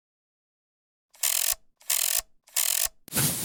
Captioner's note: clockwork windup